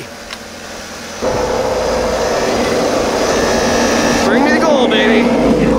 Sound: motor humming

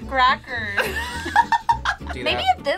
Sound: laughing

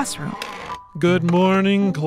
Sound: door opens and footsteps

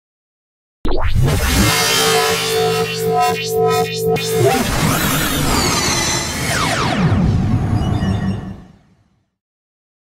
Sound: sound of morph

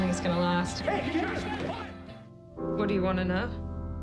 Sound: shouting

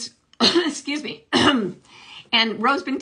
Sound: coughs

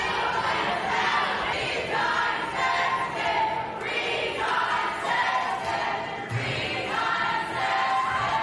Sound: crowd chanting

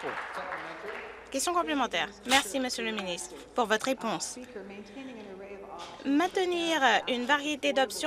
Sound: applause

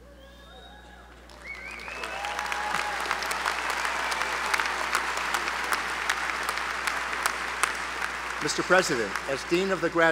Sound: applause

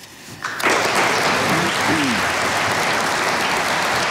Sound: audience applauding

